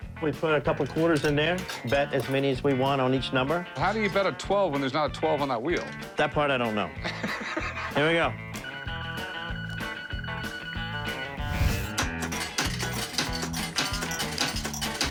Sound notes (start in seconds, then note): 7.0 laughs; 8.7 beeps